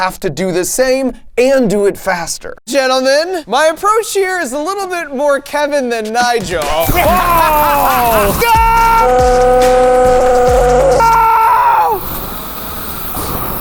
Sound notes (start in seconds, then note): 6.8 flame thrower whirring; 9.0 screaming